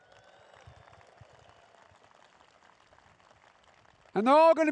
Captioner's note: applause